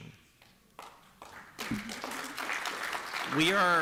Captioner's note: applause